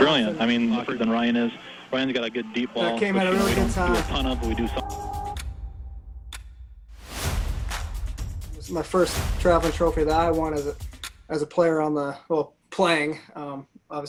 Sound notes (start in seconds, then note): 6.3 clock ticking